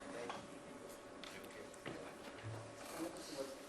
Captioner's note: background Conversation